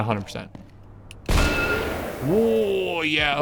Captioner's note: gun fires